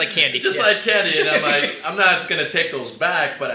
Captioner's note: laughs